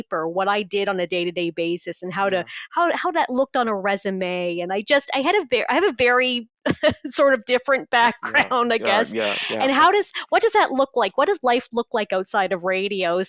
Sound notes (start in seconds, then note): 8.0 laughs